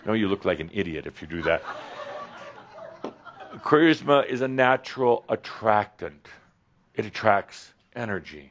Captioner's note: some chuckles